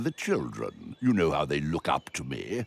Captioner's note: giggles